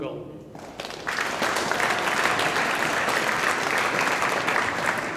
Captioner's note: audience applauding